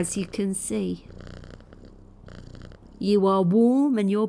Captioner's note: purring